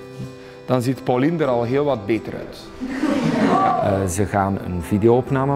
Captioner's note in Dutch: gelach